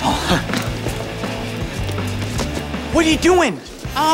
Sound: chuckles nervously

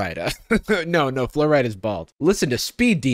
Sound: chuckles

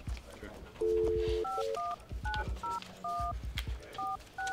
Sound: phone dialing

